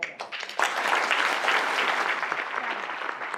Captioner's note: clapping